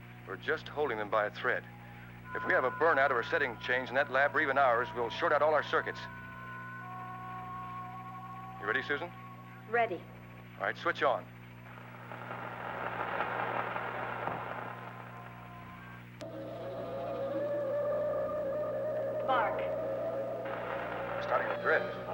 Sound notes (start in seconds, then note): 12.1 static